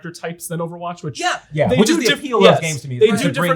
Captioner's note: group clamoring